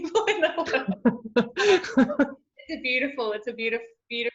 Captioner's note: both laugh